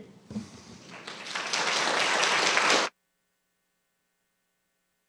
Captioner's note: audience applauding